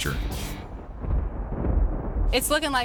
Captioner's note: thunder rumbles